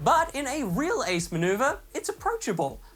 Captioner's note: none